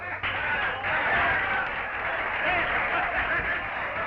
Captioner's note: patrons applauding